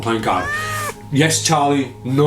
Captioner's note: Charlie meows loudly